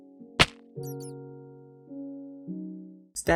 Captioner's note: Minecraft Fall Damage